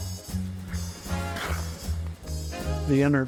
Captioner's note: swish, clack